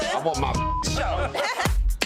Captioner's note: upbeat pop music; beep; everyone laughing